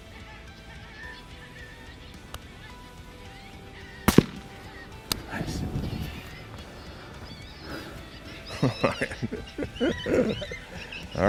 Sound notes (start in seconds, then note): 0.2 animal calls; 4.0 gun firing; 8.7 laughing